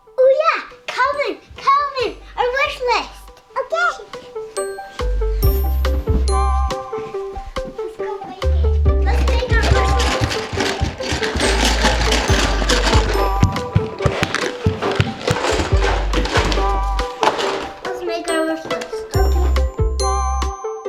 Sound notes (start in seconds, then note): 11.2 crayons shaking in box; 13.3 footsteps